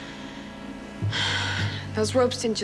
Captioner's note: sighing